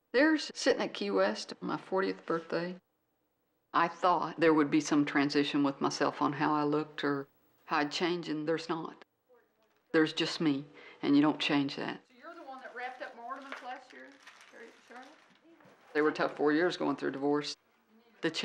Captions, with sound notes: There's sitting at Key West on my 40th birthday. I thought there would be some transition with myself on how I looked or how I'd change and there's not. There's just me, and you don't change that. (background chatter) There were a tough four years, going through a divorce,